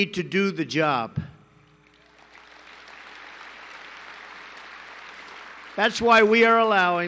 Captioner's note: applause